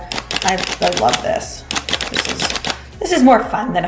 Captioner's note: sifting noise